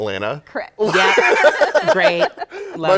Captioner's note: laughter